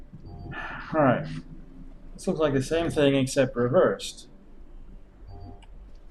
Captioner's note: sighs